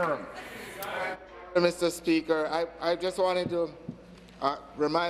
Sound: applause

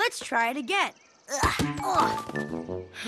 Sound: groan; sighs

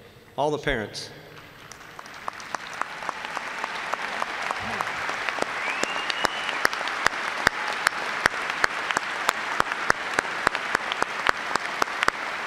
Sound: applause

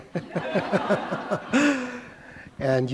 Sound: laughter

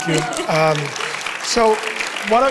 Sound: audience cheering and applauding

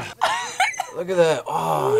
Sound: laughs

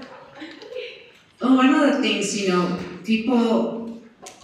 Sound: laughter & Inaudible Remark

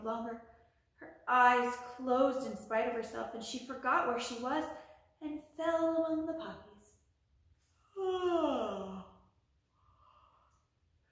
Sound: yawn

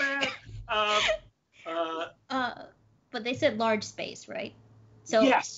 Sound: laughing

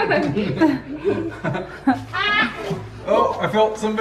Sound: parents laugh

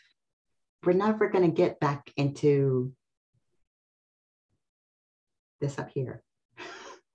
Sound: laughs

